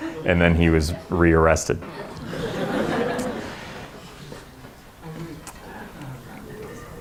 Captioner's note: laughter